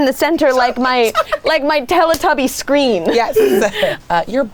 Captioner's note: laughing